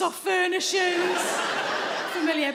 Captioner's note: audience laughing